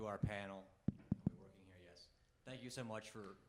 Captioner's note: mic thudding